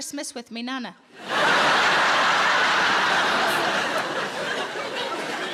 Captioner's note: audience laughing